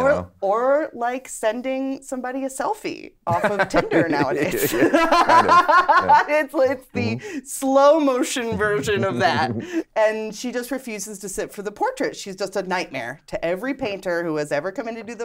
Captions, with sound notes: - Or like sending somebody a selfie off of Tinder nowadays. (laughing) It's the slow motion version of that. And she just refuses to sit for the portrait. She's just a nightmare to every painter who has ever come in to do the portrait